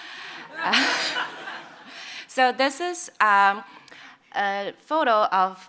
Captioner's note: chuckles